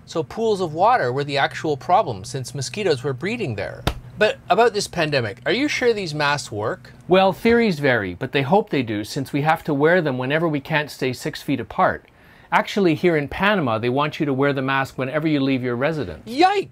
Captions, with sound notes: So pools of water were the actual problems since mosquitoes were breeding there. (slaps bug) But about this pandemic, are you sure these masks work? - Well, theories vary, but they hope they do since we have to wear them whenever we can't stay six feet apart. Actually here in Panama, they want you to wear the mask whenever you leave your residence.